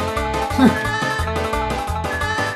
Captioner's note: laughs